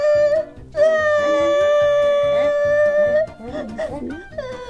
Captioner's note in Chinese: 哭声